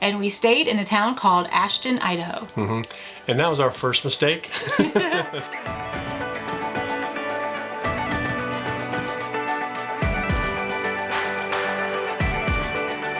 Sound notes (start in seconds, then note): 4.5 chuckling; 6.3 cheerful music